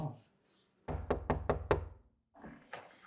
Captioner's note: door knocks